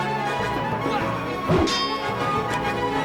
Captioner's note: metal clanging